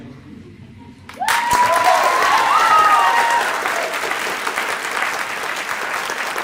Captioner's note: applause